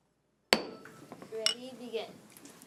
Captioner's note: gavel bangs